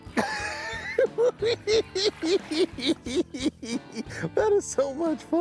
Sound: cackling

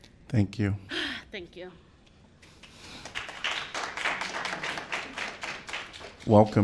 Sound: applause

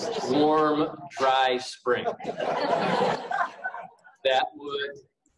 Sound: laughing; laughing

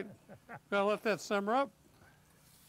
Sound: laughing

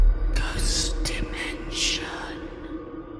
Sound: whispering

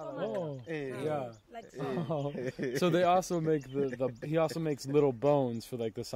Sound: speaking native language

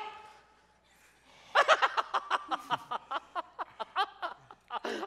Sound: laughing

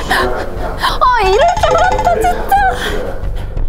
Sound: running

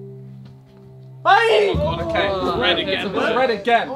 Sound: screaming

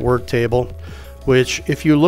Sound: inhales

